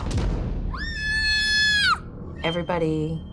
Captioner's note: screaming